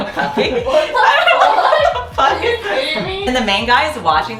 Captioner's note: laughing from how ridiculous it is